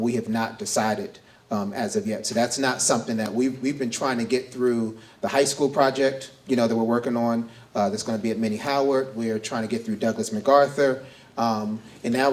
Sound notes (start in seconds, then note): none